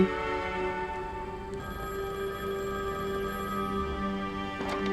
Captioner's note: phone ringing